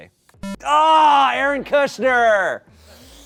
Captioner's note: electronic boop